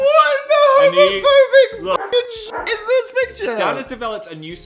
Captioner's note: barking